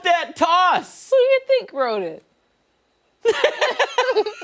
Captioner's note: laughter